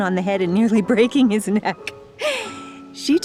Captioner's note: chuckles